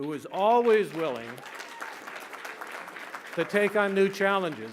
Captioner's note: applause